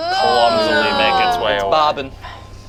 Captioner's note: group groans